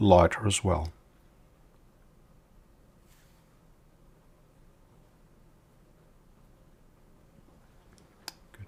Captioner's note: silence